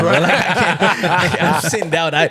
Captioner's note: laughing